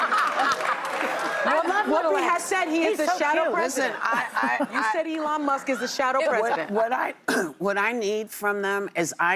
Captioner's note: laughter